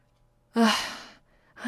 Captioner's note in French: Soupir